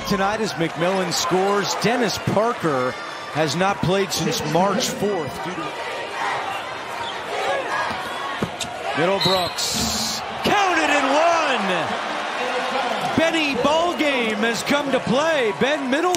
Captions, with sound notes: TONIGHT AS MCMILLIAN SCORES. DENNIS PARKER HASN'T PLAYED SINCE MARCH 4 DUE TO AN ILLNESS AND KEATTS TOLD US YESTERDAY AIR. O'COO'-- O'CONNELL NEARLY HAD IT POKED AWAY FROM BEHIND. [WHISTLE] MIDDLEBROOKS. COUNT IT AND ONE! BENNY BALLGAME HAS COME TO PLAY. BEN MIDDLEBROOKS, ALREADY WITH